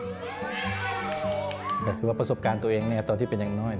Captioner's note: clapping